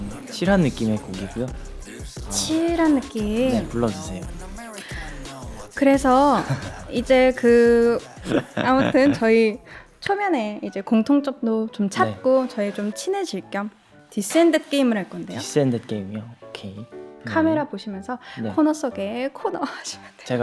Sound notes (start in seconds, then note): 8.0 hehehe